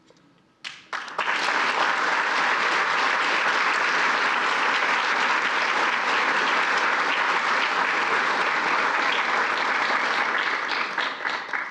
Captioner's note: applause